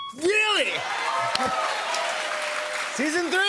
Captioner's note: cheers and applause